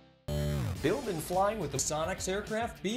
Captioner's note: electronic music; voiceover